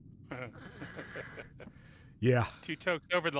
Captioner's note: laughing